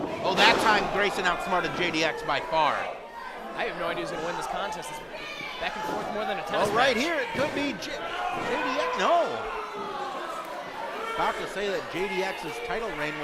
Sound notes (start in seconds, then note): 6.5 floor banging